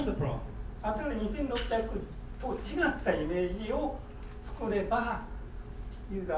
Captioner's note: speaking in foreign language